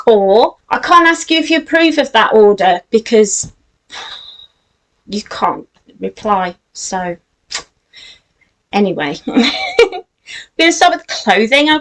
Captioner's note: giggles